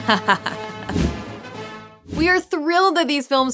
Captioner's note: evil laugh